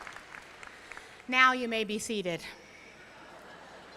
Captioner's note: applause